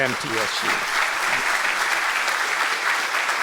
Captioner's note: applause